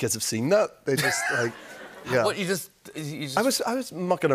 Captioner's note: laughter